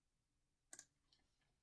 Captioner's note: click